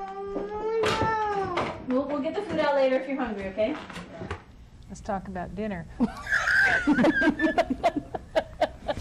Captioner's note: clatter of dishes nearby